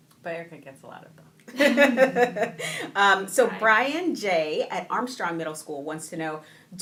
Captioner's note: laughing